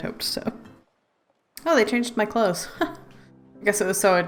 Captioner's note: laughs